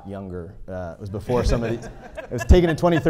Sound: audience laughing

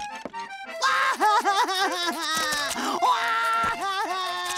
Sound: crying

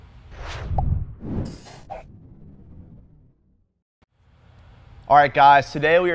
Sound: whooshing; ball pops

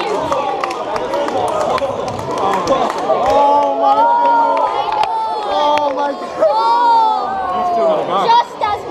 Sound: cheering

